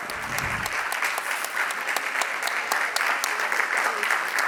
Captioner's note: audience clapping